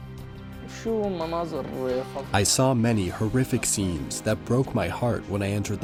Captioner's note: through translator